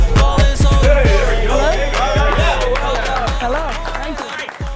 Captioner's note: group applauding